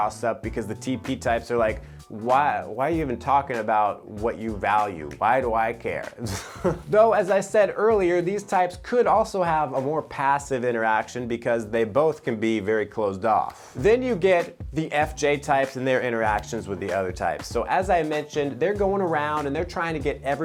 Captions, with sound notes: because the TP types are like, "Why are you even talking about what you value? "Why do I care?" (giggles) Though, as I said earlier, these types could also have a more passive interaction because they both can be very closed off. Then you get the FJ types and their interactions with the other types. So, as I mentioned, they're going around, and they're trying to get everyone